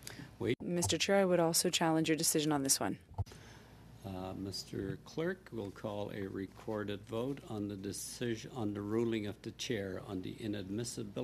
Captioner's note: speaking French